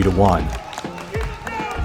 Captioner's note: crowd applauding